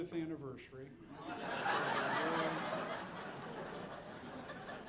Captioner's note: audience laughing